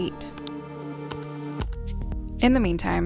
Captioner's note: keys clacking